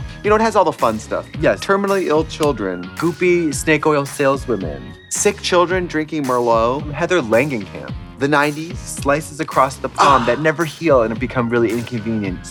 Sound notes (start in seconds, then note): 10.0 Trixie moans